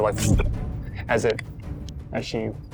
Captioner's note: tongue flutters